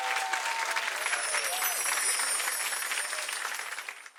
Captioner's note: chimes tinkling